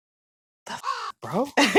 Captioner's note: caw